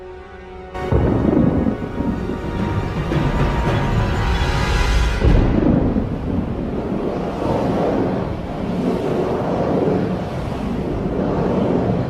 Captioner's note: thunder rolls; portal swirl open